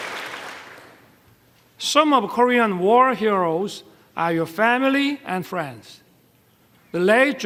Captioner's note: applause